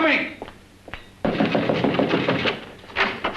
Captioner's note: knocking